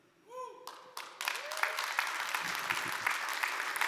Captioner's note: audience applauds